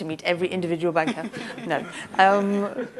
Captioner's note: laughter